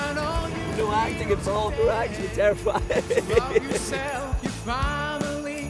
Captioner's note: loud engine noise